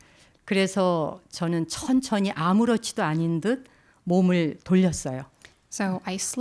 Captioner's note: speaking in Korean